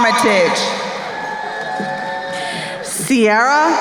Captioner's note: crowd cheering